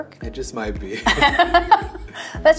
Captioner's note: laughing